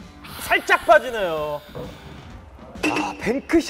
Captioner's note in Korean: 탄식